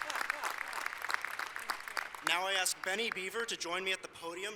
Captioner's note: applause